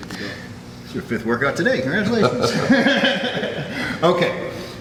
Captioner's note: laugh